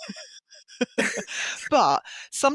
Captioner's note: laughter